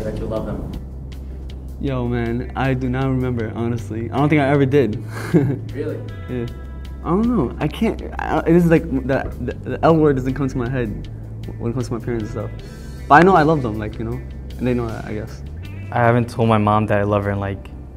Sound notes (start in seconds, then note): 5.0 laughs; 8.5 stutters